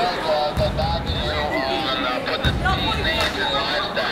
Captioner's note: chattering